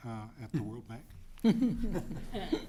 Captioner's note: laughter